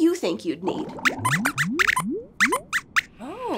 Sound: squeaks squeaks

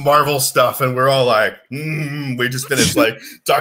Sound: grumbles

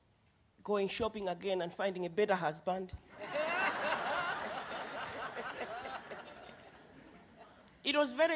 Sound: laughter

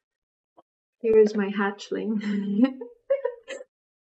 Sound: laughs

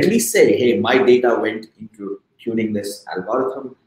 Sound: speaking softly

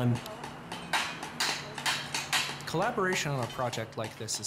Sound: hammering noises in background

